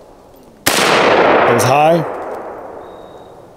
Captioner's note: gunshot